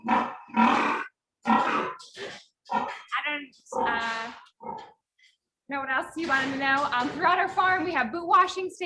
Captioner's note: pigs grunting